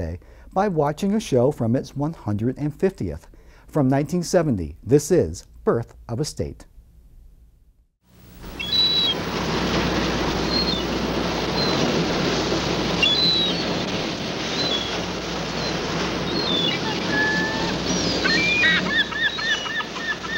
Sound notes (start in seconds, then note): 8.5 gull calling; 11.0 surf pounding